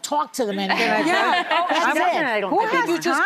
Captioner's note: audience laughing